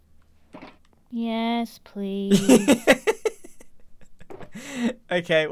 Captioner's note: laughs